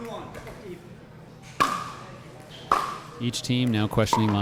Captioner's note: ball being smacked